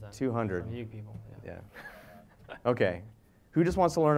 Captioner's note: laugh